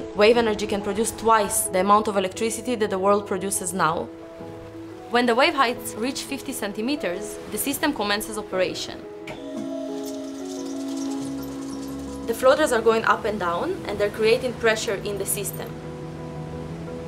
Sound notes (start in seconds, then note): 9.3 machinery humming